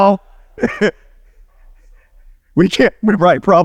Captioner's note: laughing